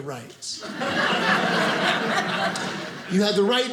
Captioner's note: audience laughing